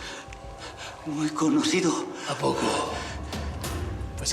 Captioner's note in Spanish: golpes